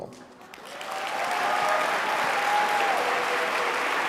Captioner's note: applause